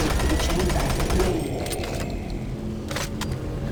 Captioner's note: gun firing